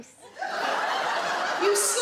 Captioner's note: audience laugh